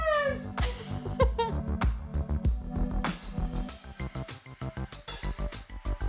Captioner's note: laughs; upbeat music